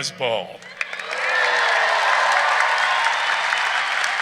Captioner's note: audience cheering